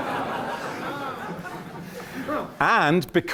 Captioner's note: laughter